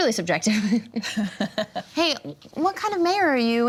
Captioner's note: all chuckle